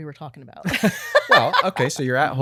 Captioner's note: laughing